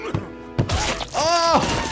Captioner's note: Cuddles squishing; tray thudding; laughs